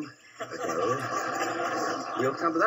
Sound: audience laughing

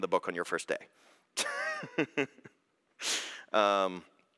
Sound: laughs

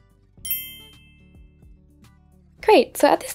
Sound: ding rings

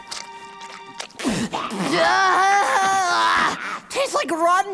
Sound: yelling

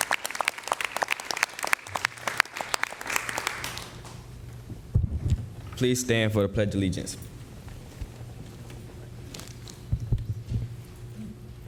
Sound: applause

